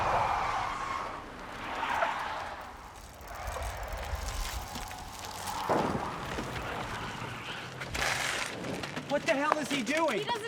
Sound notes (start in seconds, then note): 0.3 tires screeching; 6.9 tires screeching